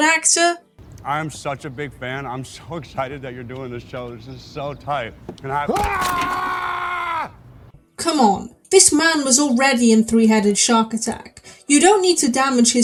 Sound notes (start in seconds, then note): 7.2 caveman screaming